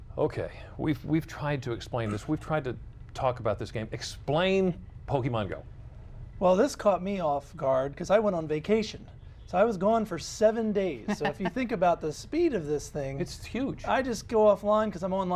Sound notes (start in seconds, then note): 8.6 cough